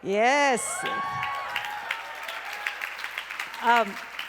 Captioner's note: crowd cheers